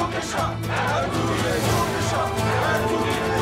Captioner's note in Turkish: Hep bir ağızdan